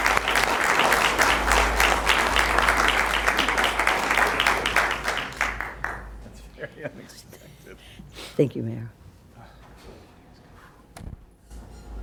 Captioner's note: applause